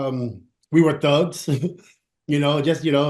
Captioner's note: chuckles